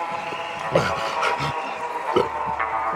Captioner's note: gasps